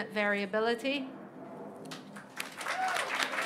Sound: applause

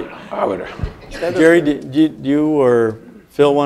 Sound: laugh

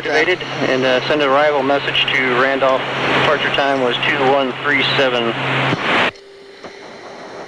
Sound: air traffic control in background

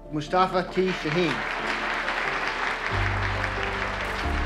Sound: audience clapping

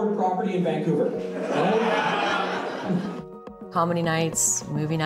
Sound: audience laughing

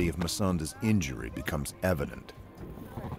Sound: voiceover

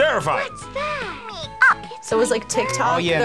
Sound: Furby babbles

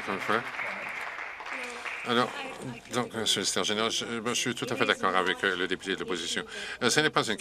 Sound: some Applause

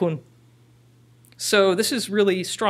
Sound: foreign language

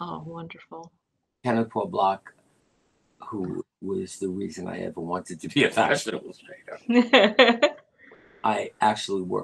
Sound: laughter

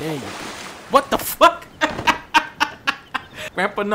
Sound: laughter

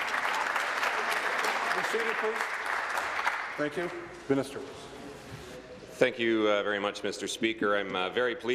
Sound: applause

